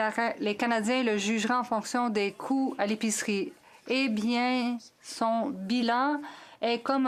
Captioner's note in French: voix de l'interprète